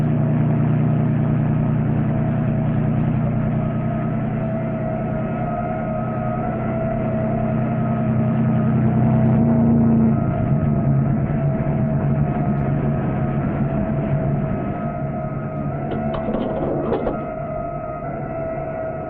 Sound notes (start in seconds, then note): 5.3 distant police sirens alarming